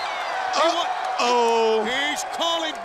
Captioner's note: crowd cheering